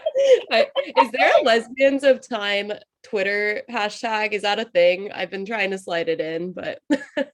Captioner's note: laughs